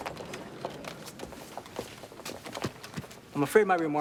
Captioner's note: footstep